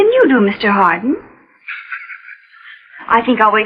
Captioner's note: laughs